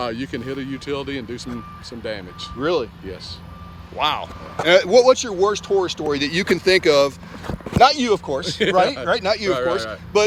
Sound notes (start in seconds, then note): 8.4 chuckling